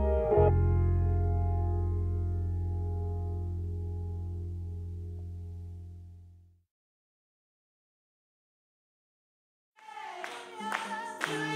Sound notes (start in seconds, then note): 7.7 congregation claps rhythmically